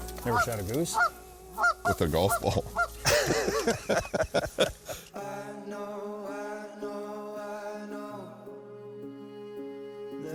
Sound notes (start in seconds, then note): 3.0 both laughing